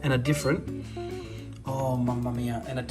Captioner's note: breathing in